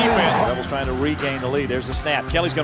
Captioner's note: voiceover